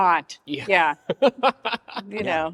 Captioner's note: laughs